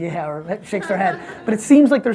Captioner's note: audience laughs